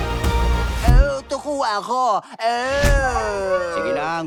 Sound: grunts mockingly

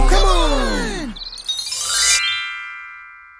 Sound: birds chirping

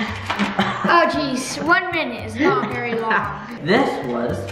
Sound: laughs

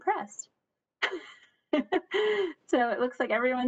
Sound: laughs

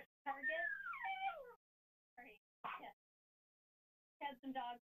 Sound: dog squeaking

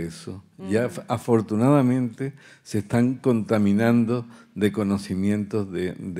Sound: continues in Spanish

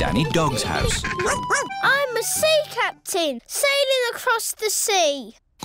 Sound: barks; oinks

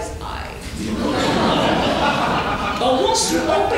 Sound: audience laughs

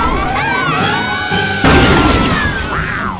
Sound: crashing

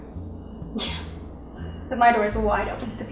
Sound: scoffs

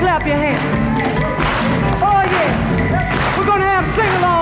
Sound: crowd claps

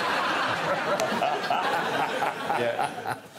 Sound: audience laughing

